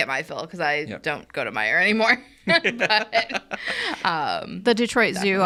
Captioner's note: laughs